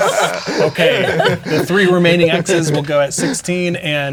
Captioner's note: players laughing